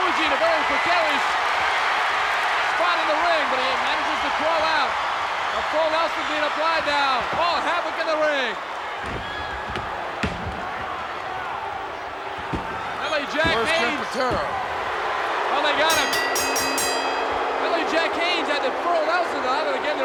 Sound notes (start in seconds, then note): 9.3 bodies thudding; 12.5 hand thudding; 15.6 bell rings